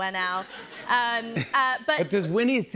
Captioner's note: laughter